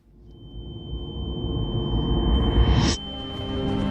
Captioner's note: high-pitched ring